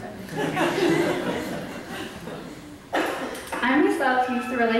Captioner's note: audience laughs